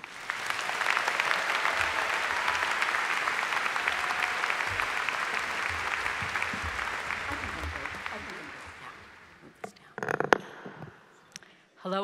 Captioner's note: applause